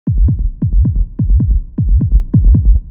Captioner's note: heavy, racing heartbeat sound—thump-thump, thump-thump